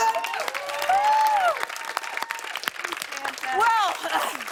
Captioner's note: cheers and applause